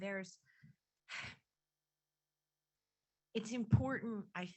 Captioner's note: sigh